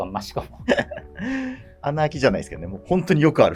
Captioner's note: laughing